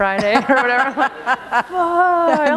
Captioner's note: laughter